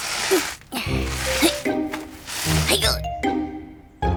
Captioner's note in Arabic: صوت التنهد